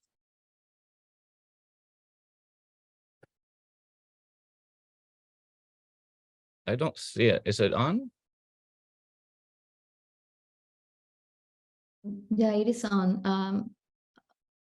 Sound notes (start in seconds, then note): 1.2 no audio